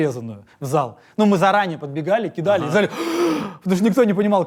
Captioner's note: gasps